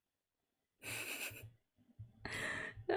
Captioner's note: laughs